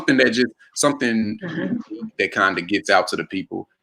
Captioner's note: murmurs